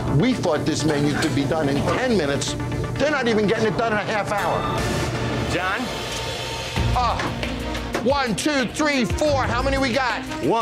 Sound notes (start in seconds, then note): 7.2 groaning